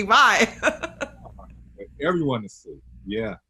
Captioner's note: laughing